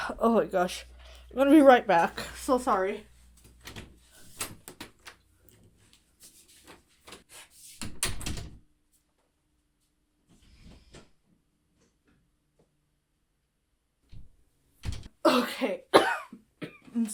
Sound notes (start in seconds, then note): 3.6 door clatters; 7.8 door clicks shut; 15.2 Hana coughs